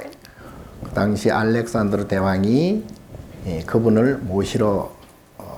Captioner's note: speaking Korean